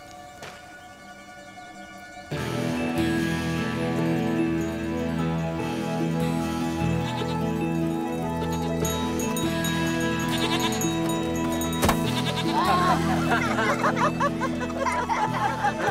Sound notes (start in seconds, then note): 7.5 bleating in distant; 12.2 laughing